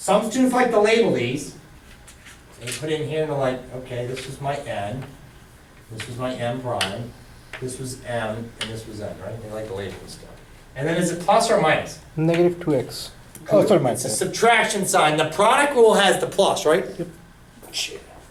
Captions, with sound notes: - Some students like to label these they put it in here and they're like okay this is my N, this is my M prime this was M and this was N, right they like labeling stuff and then is it plus or minus? - [Voiceover] Negative 2x. - It's a subtraction sign, the product rule has the plus right.